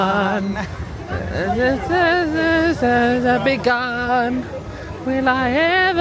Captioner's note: humming